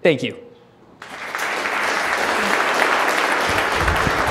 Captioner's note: applauding